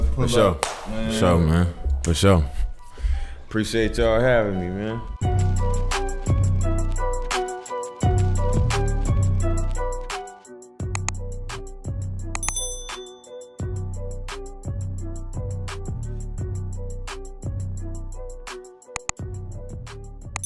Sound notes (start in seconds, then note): 12.3 button clicking; 12.4 bell ringing